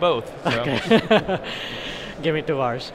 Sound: chuckling

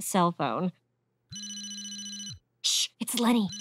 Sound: ringing

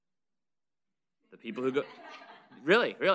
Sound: audience laughter

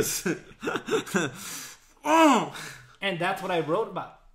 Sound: laughs

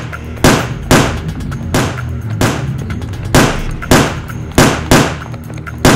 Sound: repeated gun shots; gun shots; gun shots continue

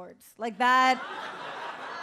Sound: audience laughs

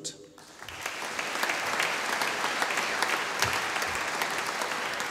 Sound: audience applauding

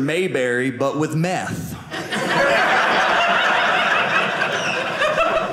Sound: audience laughing

